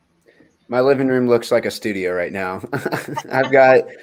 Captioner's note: laughs